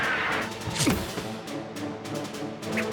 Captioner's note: thud!; whoosh! whoosh!